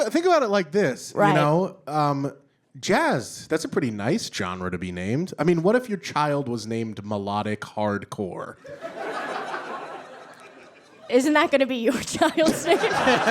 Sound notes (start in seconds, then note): 8.6 audience guffaws